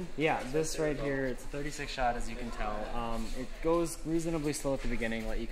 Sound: none

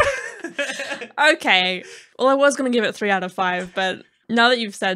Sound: laughing

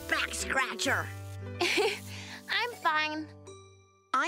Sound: chuckles

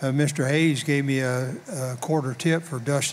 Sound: none

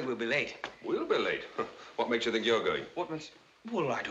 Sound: scoffs

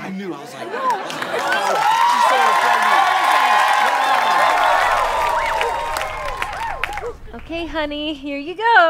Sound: audience cheering

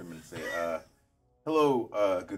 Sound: speaker chuckles

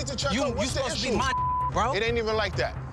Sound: beep

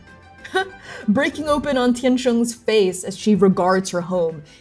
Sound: disbelieving laugh

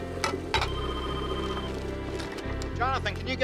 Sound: doorbell rings; phone rings

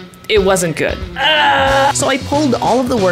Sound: groans

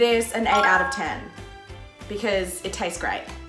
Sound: bell chiming

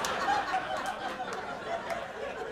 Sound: more laughter

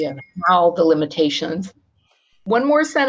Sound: bell rings

